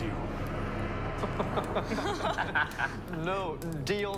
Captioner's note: all laughing